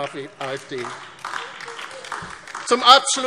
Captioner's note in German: Beifall DIE LINKE